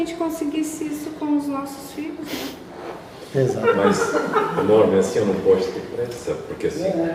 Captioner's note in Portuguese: risadas